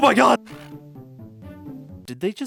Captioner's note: weird sound effect